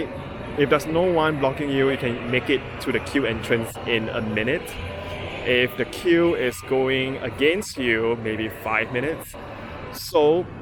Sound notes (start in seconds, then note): 6.0 crowd